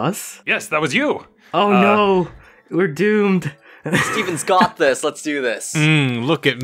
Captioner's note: chuckles